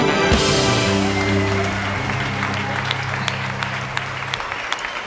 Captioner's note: applause and cheering